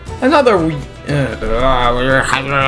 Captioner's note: fumbles